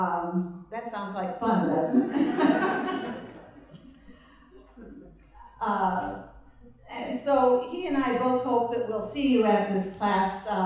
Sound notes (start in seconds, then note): 1.8 laughter